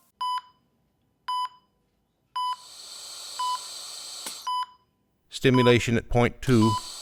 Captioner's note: respirator, EKG monitor beeping